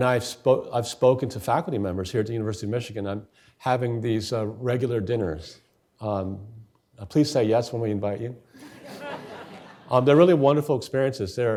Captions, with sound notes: And I've spoken to faculty members here at the University of Michigan, I'm having these regular dinners. Please say yes when we invite you. (audience laughing) They're really wonderful experiences.